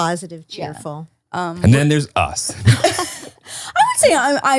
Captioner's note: laugh